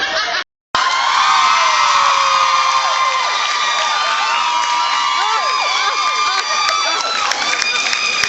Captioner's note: cheers